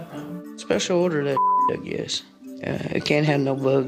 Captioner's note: beep